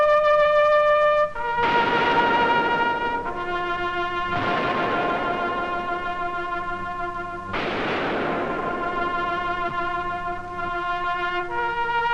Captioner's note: gun shots